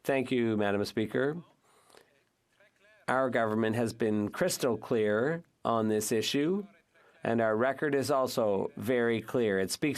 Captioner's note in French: voix de l'interprète